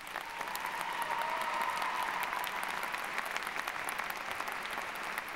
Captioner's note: applause